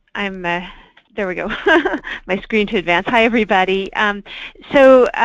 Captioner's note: laughs